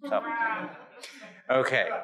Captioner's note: audience chuckles and groans